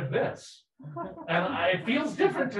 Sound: people laughing

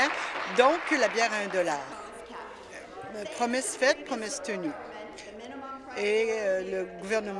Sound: applause

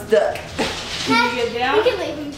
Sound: laughs

